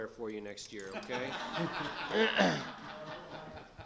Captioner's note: laughing